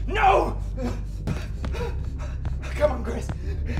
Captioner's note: Jim grunting; palms thudding